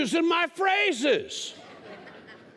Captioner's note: laughter